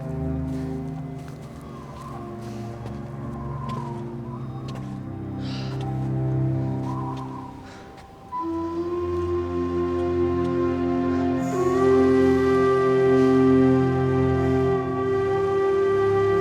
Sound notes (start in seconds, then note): 4.2 wind whistling